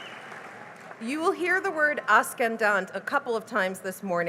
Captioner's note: non-english